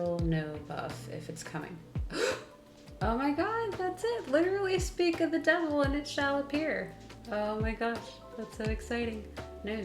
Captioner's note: gasp